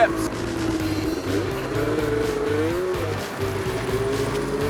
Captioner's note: engine whirring